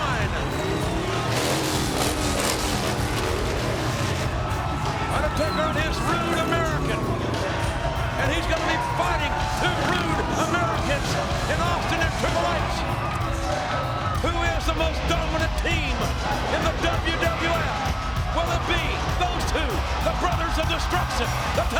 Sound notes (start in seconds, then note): 1.6 motorcycle engine roars; 5.0 audience cheers